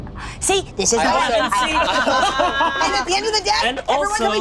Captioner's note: laughing